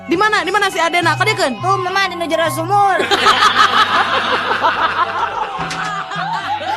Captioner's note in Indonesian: tertawa